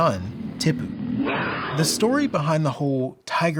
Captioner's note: tiger roaring